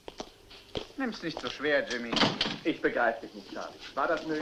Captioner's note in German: Tür schließt sich